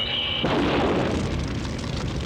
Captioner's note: explosion